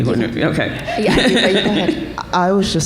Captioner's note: laughter